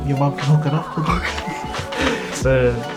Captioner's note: laughs